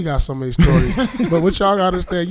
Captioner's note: laughing